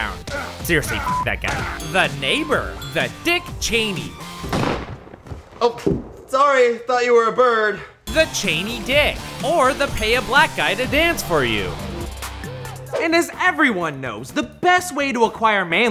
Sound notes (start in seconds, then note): 4.4 gun shot